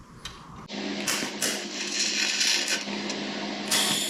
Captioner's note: welding noises